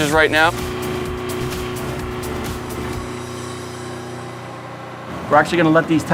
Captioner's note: equipment running